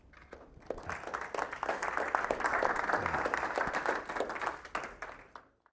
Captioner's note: applause